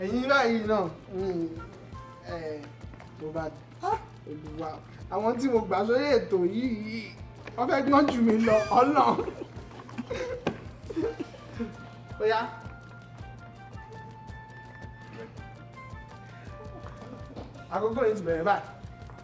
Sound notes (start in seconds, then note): 10.3 laughs